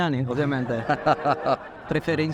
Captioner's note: laughter